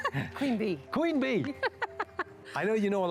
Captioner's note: laughter